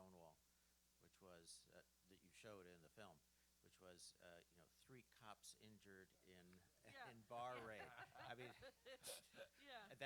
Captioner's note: laughter